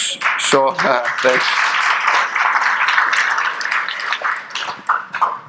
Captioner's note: audience appluading